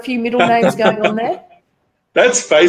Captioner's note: laughing